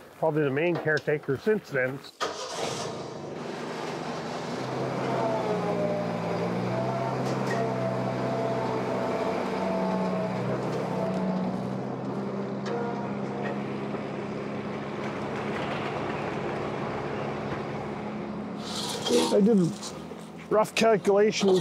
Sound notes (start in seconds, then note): 2.2 engine starts; 4.8 engine rumbles